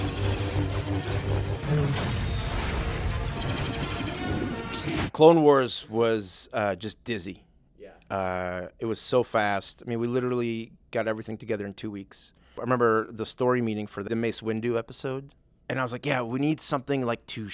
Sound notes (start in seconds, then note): 0.0 loud explosion